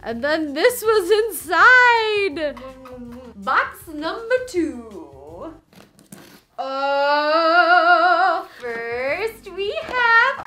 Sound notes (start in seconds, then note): 2.4 kissing noises